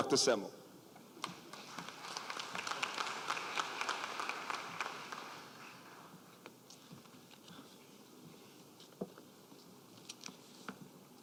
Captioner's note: applause